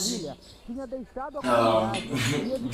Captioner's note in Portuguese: Televisão ao fundo